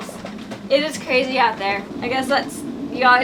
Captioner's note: wind howling